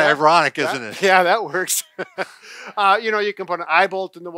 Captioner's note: chuckles